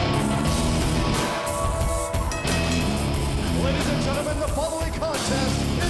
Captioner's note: bell ringing